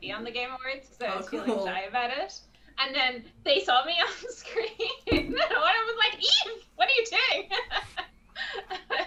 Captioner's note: laughs